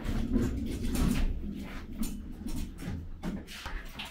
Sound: metal clanking; wheels rumbling

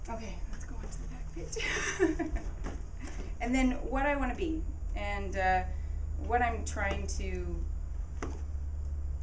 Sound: laugh

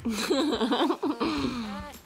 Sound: giggles

